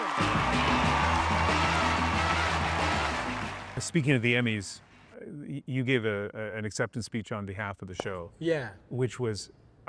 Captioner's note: cheers and Applause